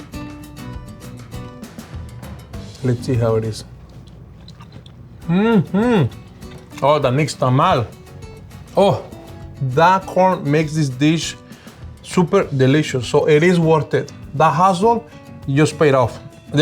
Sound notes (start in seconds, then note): 0.1 bright guitar music; 3.7 chewing